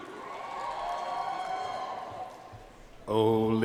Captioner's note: audience cheering and applauding